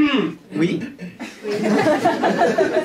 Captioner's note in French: raclement de gorge; rires public